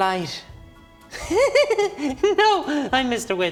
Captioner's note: that creepy giggle you thought you had escaped